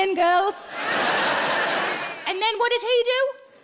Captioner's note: audience laughs